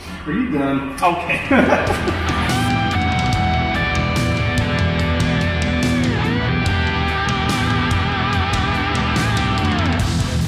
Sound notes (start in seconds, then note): 1.3 laugh